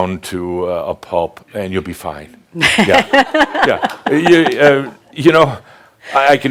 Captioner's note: she chuckles again